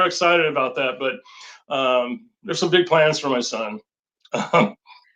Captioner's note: chuckles